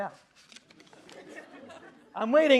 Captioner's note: audience chuckling